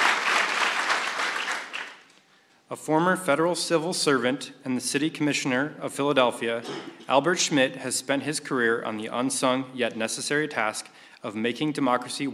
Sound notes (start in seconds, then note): 2.4 applause